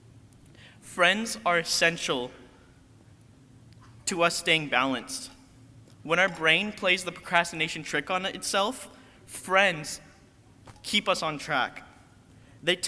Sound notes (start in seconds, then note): none